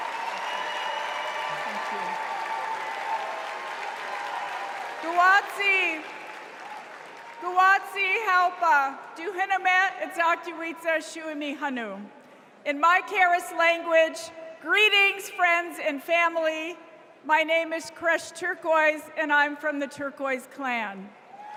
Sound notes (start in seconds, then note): 7.0 cheers and applause